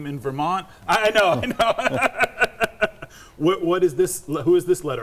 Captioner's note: laughing